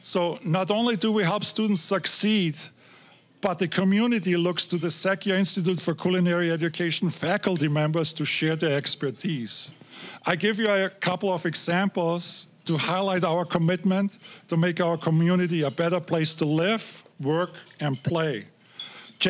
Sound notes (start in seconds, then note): none